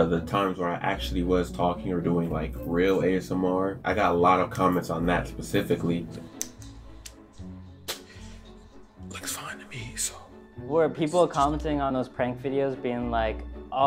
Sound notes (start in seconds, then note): 6.2 finger taps syringe; 7.8 water squirts